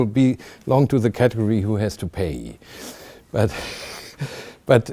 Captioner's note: chuckling